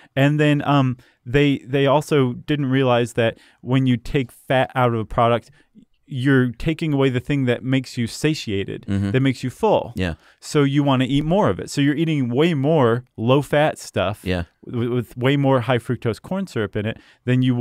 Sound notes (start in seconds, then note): 9.7 voiceover; 14.4 voiceover